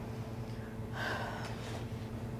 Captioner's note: sighs